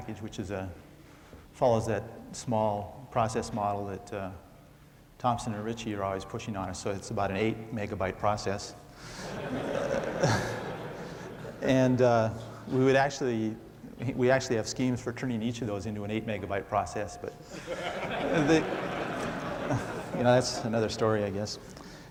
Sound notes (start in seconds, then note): 9.2 laughter